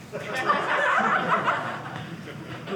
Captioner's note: audience laughing